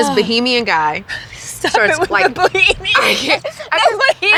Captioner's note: laughing